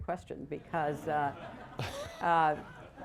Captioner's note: laughter